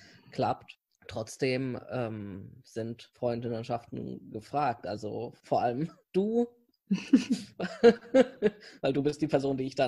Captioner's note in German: beide lachen